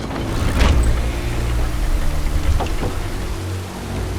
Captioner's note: heavy old door turning